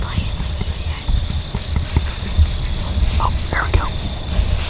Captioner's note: whispering